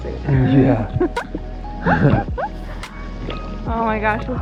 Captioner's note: giggles